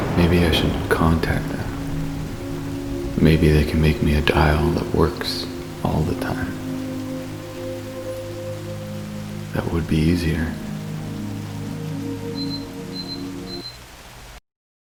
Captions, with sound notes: Maybe I should contact them. Maybe they can make me a dial that works all the time. That would be easier. [beeping]